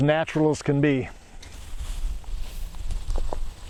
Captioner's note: digging